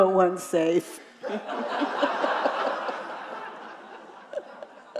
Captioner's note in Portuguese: risos da plateia